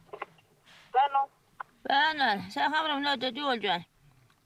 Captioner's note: foreign spoken audio